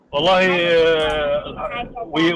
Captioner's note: Bertepuk tangan